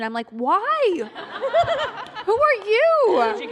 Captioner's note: laughter